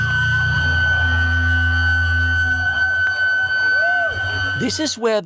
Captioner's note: violent feedback on stage